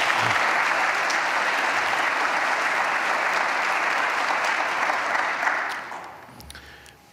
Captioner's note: applause